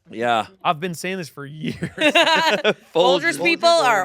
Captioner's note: laughs